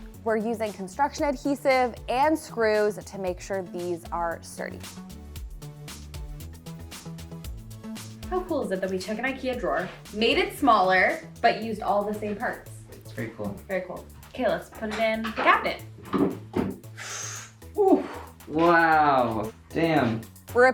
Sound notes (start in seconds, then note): 5.3 upbeat pop music continues; 16.0 drawer thumping; 16.9 inhales sharply